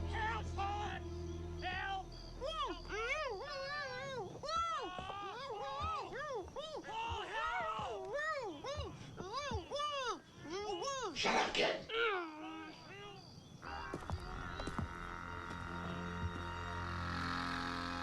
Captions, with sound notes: Help, Pa! Help! (Zeke mumbling) Pa, help! (Tommy mumbling frantically) - Shut up, kid! (tense quirky music)